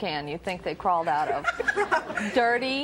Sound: giggles

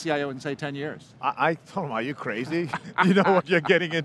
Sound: laughs

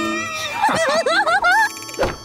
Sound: laughing

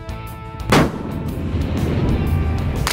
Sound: gunshot

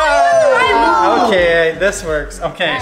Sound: cheering

